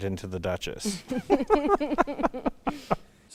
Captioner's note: laughing